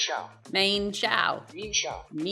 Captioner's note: Australian accent